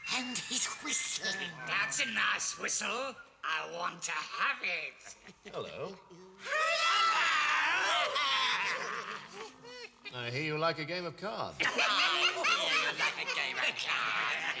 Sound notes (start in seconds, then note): 8.7 all laughing; 11.7 devils cackling